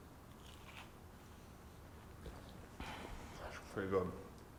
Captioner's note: crunching sound